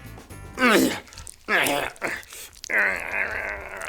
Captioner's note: grunts